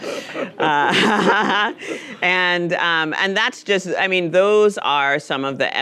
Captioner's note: audience laughing; laughing; laughs